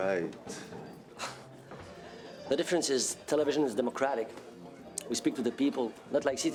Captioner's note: scoffs